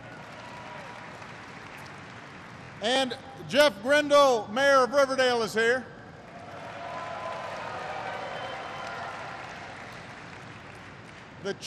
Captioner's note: applause